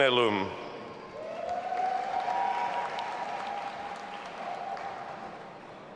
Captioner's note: audience applauding and cheering